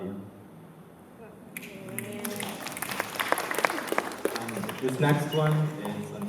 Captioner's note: applause